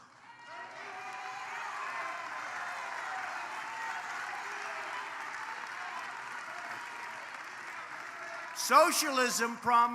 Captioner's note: applause